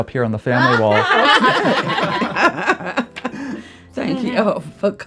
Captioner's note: all laughing